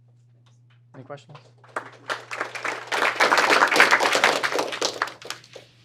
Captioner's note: applause